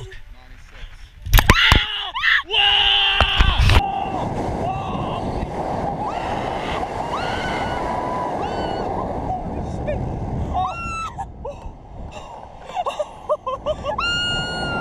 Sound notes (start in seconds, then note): 1.4 screams